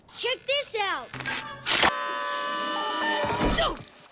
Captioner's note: yelling